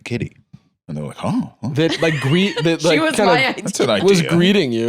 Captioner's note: laughing